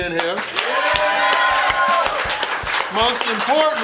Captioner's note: crowd cheers